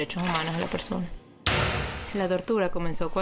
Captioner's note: door slammed